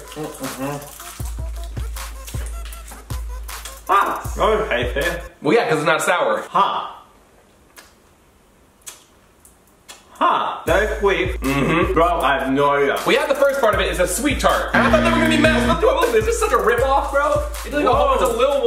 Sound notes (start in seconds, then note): 0.2 techno dance music; 8.1 chewing loudly; 14.7 buzzer sounding